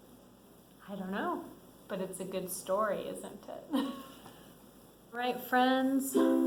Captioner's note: laughs